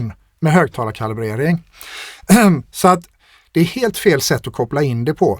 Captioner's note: clears throat